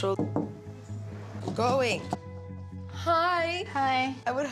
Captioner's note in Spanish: knocking on door